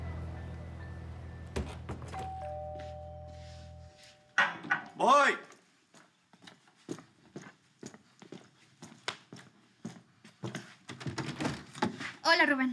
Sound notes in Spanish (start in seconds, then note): 1.5 Timbre de la puerta